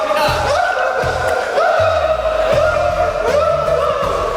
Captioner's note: laughs but he's not bad